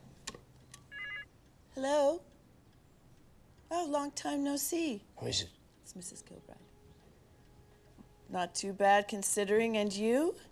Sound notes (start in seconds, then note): 4.4 Paul whispering; 5.7 Jane whispering